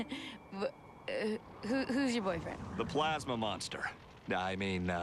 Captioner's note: laughs weakly